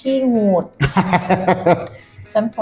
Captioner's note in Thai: หัวเราะ